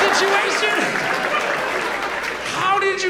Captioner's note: audience laughs